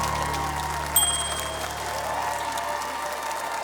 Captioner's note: cheering, applause; ding!